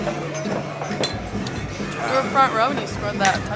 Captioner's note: glasses clanking over rhythmic hard rock music